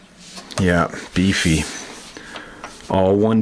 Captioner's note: voiceover